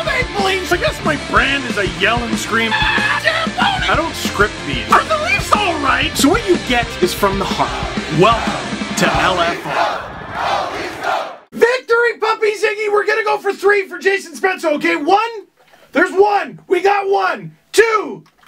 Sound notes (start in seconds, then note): 0.0 rock music plays throughout intro; 2.7 screams; 10.1 Go Leafs Go chants